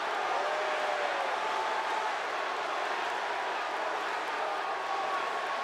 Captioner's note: audience continues cheering